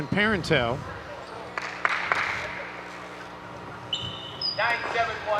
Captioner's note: clapping